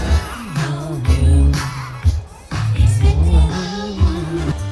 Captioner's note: whispering to the rhythm